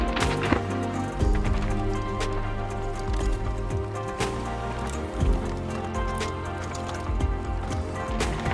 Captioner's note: tires impacting berms; bike rumbling in the distance